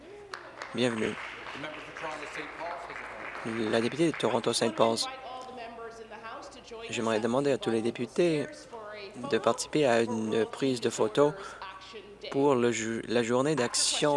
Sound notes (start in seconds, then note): 3.4 applause